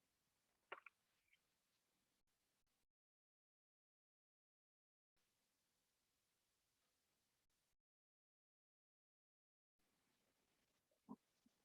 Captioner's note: silence